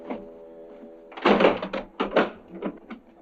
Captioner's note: metal thud